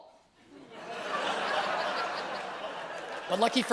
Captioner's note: audience groans and laughs